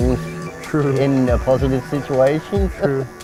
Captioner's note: laughing